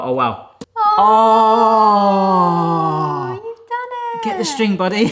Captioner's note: gasping